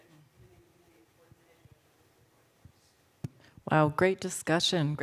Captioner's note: speaks faintly